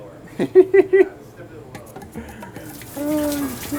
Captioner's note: laughing